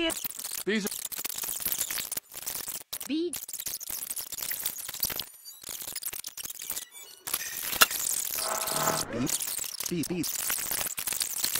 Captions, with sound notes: bees bpbpbpbpbb bEe aaaaaaaaaaaaaaaaaaaaaaaaaaaaaaaaaaaaaaaaaaaaaaaaaaaaaaaaaaaaaaaaaaaaaaaaaaaaaaaaaaaaaaaaaaaaaaaaaaaaaaaaaaaaaaaaaaaaaaaaaaaaaaaaaaaaaaaaaaaaaaaaaaaaaaaaaaaaaaaaaa *noises similar to those made when time warping* bee. bee bee yuyuyuyuy